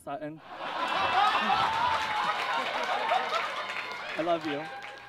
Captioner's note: audience laughs